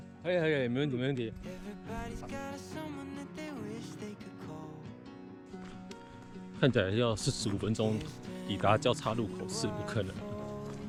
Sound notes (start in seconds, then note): 6.1 Downhill murmuring